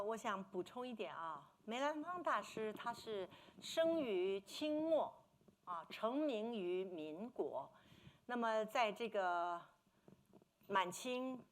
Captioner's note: speaking Mandarin